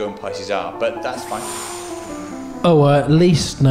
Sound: inhales

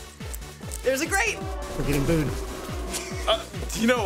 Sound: crowd boos; laughs

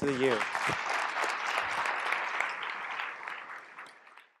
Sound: applause

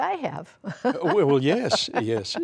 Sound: laughter

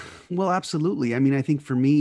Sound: sighs

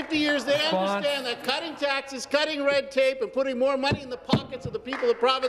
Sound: some Applause

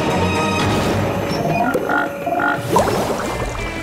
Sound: croaking

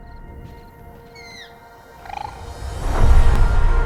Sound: creature squeaks, trills

